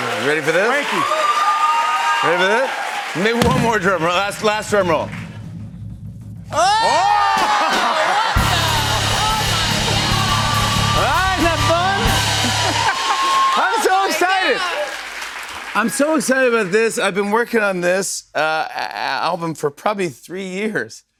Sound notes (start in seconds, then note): 5.6 drumroll; 9.7 cheers and applause; 12.6 laughs